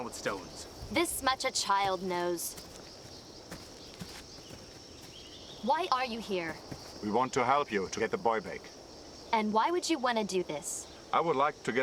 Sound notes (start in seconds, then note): 3.2 footsteps